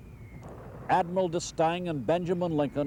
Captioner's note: mortar fire booming